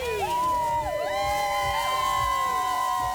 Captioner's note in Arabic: هتاف